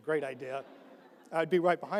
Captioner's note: audience laughs